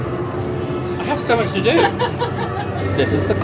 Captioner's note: laughs